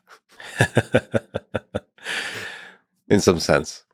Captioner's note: Eliezer laughing